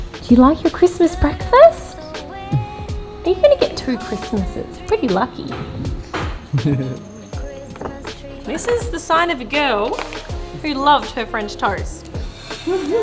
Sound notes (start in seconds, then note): 6.5 laughs; 12.6 all laughing